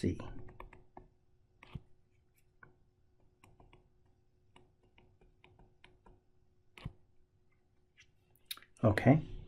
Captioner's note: tapping Sounds